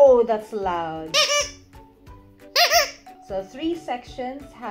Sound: squeaking

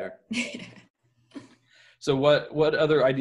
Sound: laughing

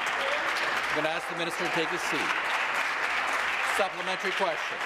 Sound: applause

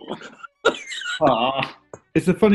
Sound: laughing

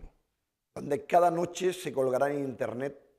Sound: speaking spanish

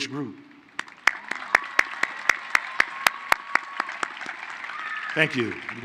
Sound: applause

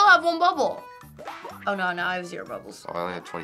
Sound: pop

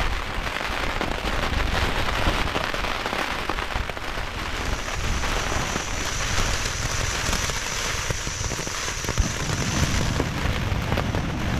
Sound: rain

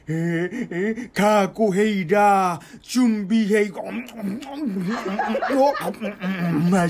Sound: starts eating

